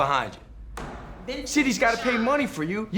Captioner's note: gavel bangs